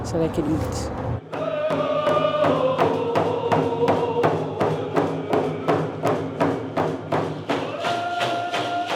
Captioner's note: crowd chanting in native language